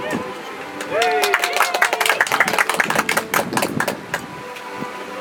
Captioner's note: audience applauds